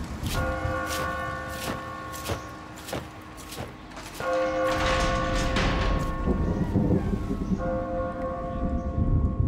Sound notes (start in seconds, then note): 0.3 feet thudding; 6.4 thunder rumbling